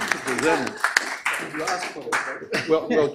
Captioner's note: applause; claps